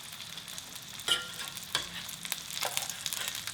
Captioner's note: oil sizzles